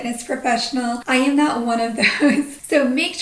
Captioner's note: chuckles